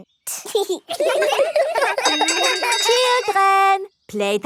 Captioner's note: laughter; giggling